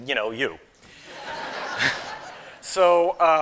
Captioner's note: laughter